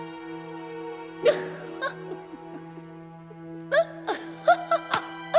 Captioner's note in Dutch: Elisabeth lacht